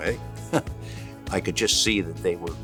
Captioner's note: laugh